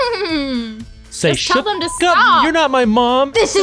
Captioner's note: beep